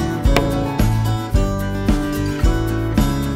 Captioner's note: hammer bangs